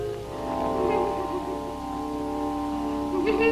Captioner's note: crying